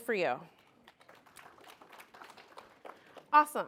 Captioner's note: applause